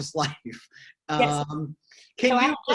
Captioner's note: chuckles